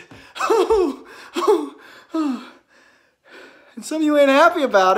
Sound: Chad chuckling

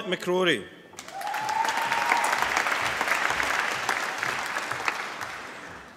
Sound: applause

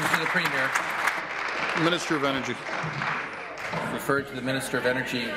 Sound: applause

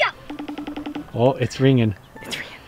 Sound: phone ringing

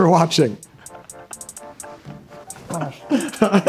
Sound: laughing

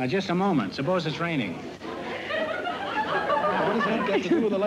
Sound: laughter

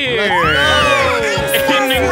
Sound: all cheering

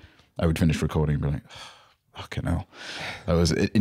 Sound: sighs

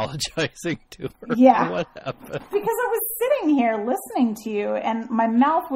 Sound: DJ laughs

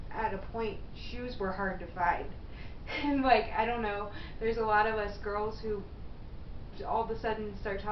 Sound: laughs

